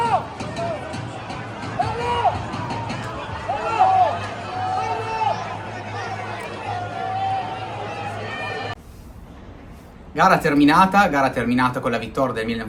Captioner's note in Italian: Applauso